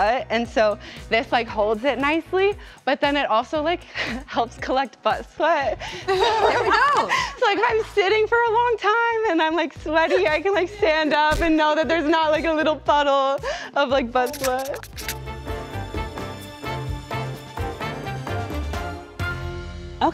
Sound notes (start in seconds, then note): 6.1 all laugh; 14.9 light uptempo music